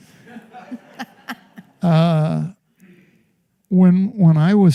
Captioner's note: laughter